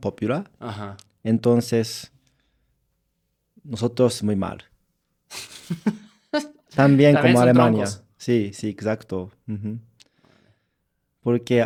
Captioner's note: laughter